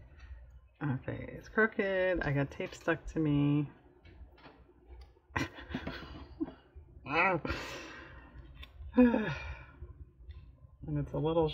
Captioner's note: laughs